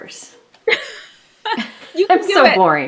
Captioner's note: laughs